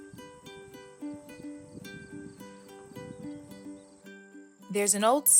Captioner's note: gentle music; insects chirping